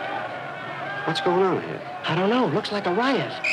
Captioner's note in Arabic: حشد هدير